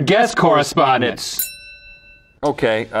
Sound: bell dings

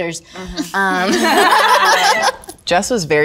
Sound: all giggling

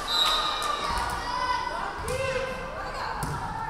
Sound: referee whistling

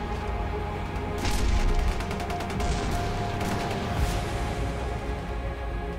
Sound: grenades and gunfire; somber music

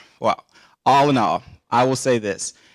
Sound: deep sigh

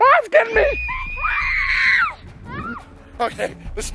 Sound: screaming

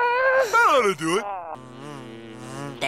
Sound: buzzing

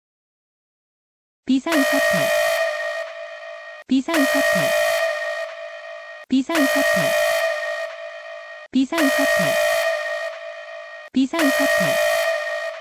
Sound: siren

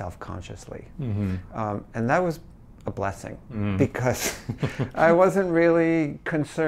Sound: laughs

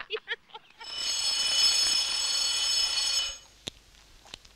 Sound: phone rings loudly

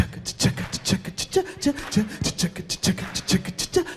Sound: beat-boxing

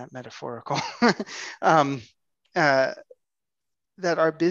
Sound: laughs

